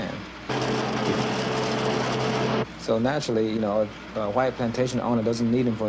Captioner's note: farm equipment noise